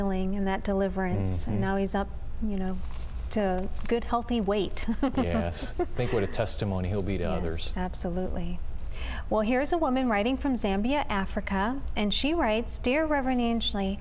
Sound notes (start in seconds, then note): 4.8 giggles